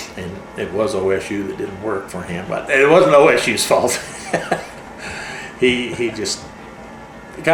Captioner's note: laughs